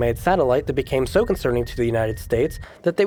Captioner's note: distant beeping